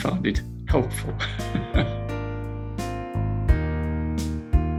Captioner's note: laughs